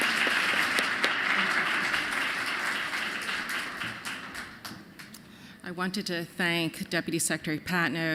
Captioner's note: applause